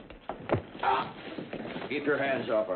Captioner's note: thud